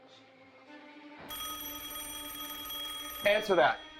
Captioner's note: phone rings